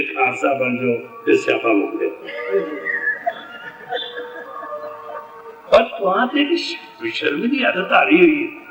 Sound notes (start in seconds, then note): 0.0 sangat laughs